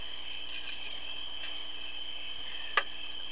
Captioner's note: keys jingling